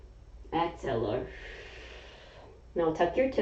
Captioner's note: exhaling; inhaling